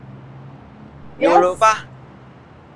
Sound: in Thai

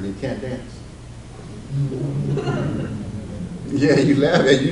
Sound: audience laughs

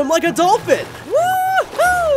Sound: water splashing; whooping

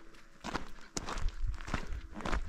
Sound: footsteps

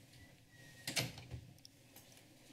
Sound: door closes

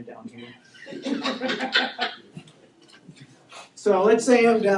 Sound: students laughing

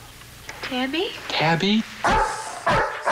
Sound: dog barking

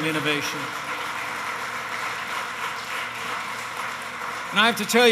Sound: applause

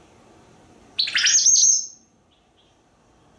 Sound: whistling

